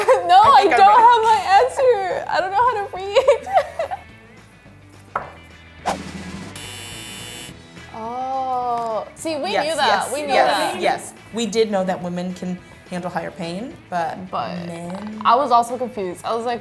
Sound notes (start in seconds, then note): 3.0 laughs; 5.9 drum rolls; 6.5 buzzer